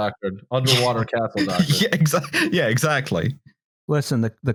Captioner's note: laughs